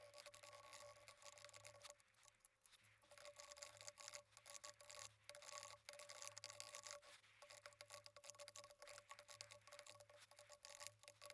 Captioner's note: typing sounds